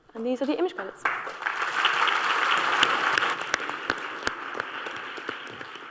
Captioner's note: applause